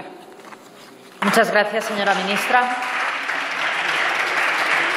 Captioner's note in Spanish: Aplausos